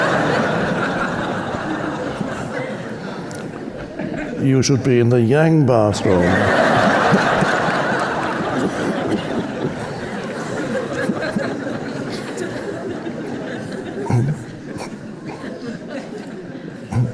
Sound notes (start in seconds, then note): 0.0 audience laughing; 7.1 audience laughing; 11.4 Eckhart chuckling softly